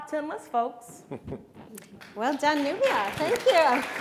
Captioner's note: chuckles; audience applauds